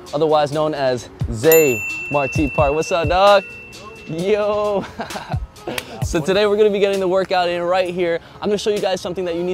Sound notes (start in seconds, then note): 4.7 laughs; 5.7 hands slap